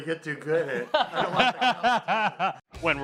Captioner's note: laughing